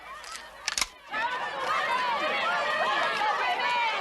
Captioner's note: crowd continues chanting